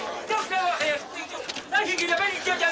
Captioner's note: man shouting aramaic